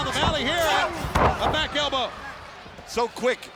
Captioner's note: body thudding